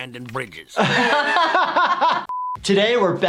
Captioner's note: laughing